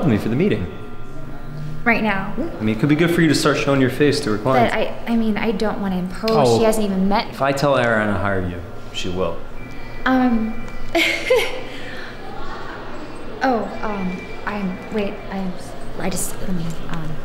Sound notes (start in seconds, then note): 9.7 phone rings; 10.9 emma joyfully giggles